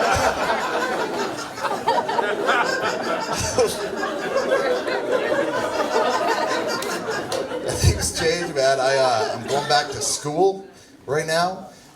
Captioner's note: audience laughs